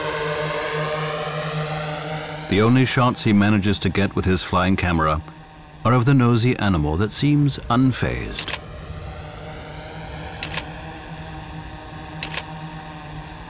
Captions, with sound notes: The only shots he manages to get with his flying camera are of the nosey animal that seems unfazed. [camera clicks]